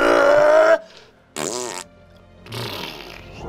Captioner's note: farts